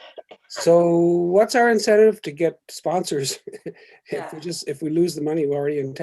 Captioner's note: laughs